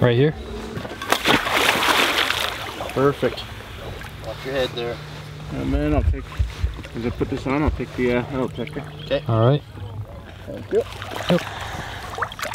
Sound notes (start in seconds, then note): 0.8 water splashing